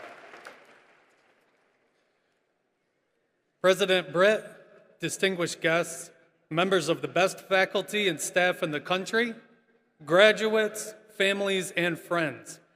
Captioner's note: applause